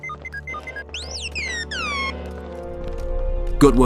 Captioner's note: astromech beeps